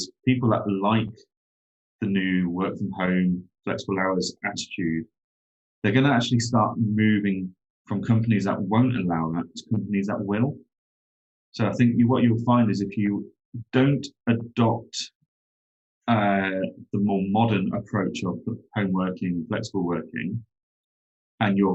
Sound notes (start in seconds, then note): none